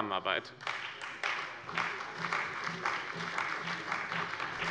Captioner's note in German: Beifall bei dem BÜNDNIS 90/DIE GRÜNEN und der CDU